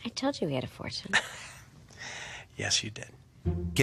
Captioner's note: laughs